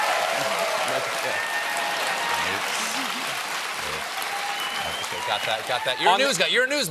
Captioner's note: cheers and applause